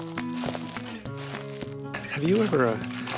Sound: easy-going rhythmic music returns; footsteps crunching

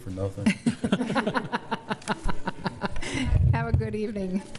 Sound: laughing

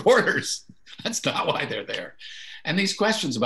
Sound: chuckles

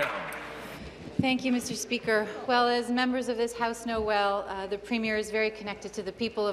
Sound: applause

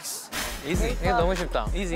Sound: confident

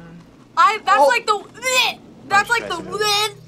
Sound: gags; gags

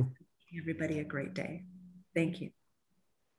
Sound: audio warps

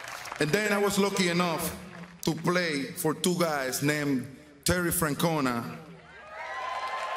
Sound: applause

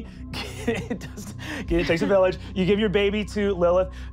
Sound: laughs

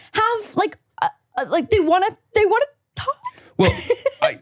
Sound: laughs

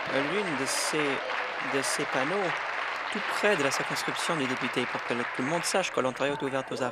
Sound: applause and cheering; applause

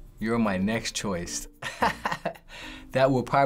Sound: laughing

